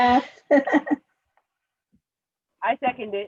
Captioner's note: soft giggles